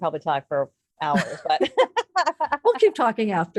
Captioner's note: both laugh